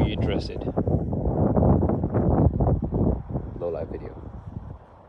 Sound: wind blowing

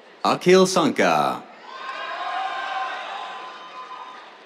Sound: cheers, applause

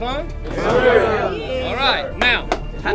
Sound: team mutters

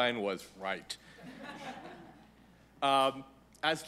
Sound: laughter

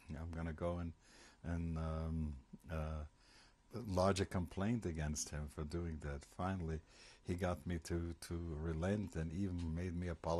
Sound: german

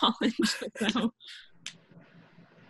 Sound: laughs

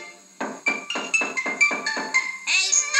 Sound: tap Tap Tap

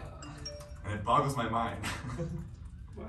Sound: phone notification rings; laughs

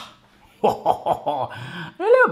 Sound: laughing

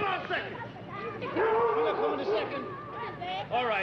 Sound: dog barking

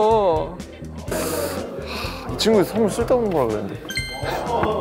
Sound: deep sigh

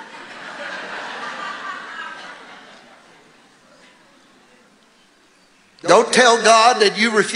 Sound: congregation laughing

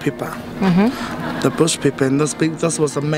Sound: voiceover

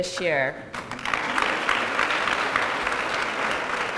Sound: applause

